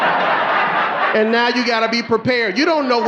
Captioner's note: audience laughing